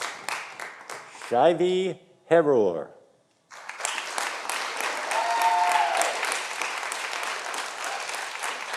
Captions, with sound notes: Shaivi Herur. (audience applauding)